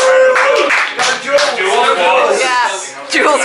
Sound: cheering

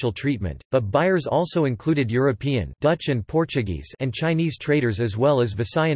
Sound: dutch and Portuguese

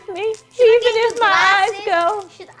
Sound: both yell at the same time

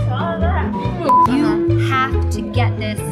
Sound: beep

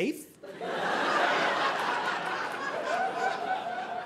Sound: audience laughing

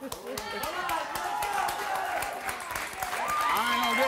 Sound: cheers

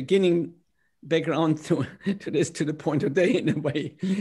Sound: laughter

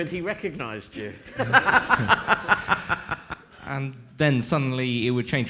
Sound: laughing

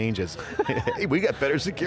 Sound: laughs

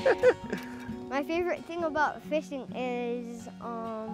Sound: laughter

